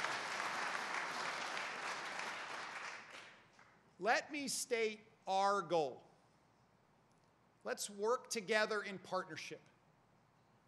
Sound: applause

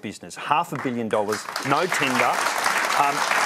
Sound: applause

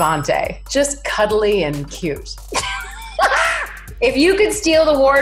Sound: laughs loudly

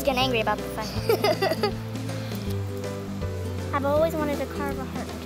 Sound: laughter

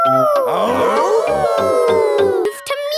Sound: all howling; howling

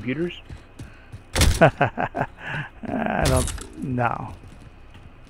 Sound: laughs

